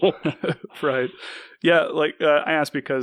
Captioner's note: laughs